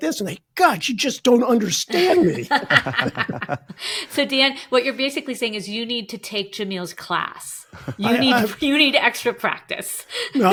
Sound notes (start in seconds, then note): 1.9 laughing; 7.7 chuckling